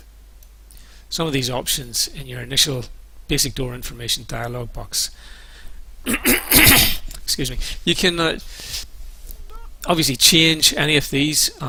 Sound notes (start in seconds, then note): 6.0 coughs